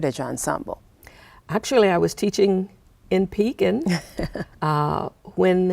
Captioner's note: chuckling